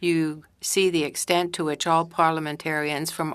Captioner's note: speaking French